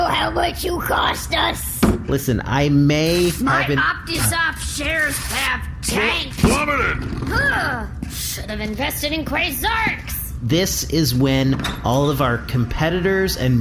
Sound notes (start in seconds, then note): 4.4 tears up paper